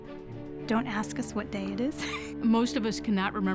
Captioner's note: laughs